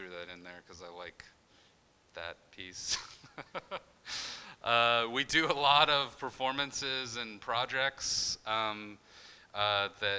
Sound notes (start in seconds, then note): 3.1 laughing